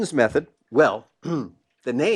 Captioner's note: cough